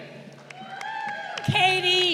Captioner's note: crowd cheering